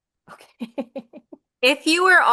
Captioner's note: laughs